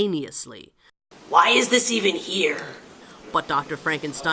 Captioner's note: evil voice